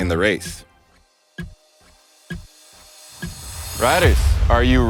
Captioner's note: clock ticking